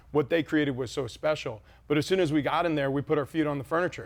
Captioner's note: none